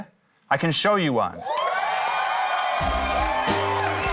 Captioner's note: cheering, applause; quirky music